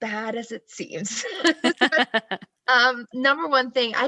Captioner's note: both laugh